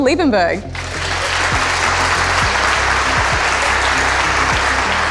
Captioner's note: audience loudly clapping